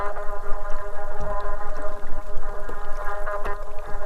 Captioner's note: fish drumming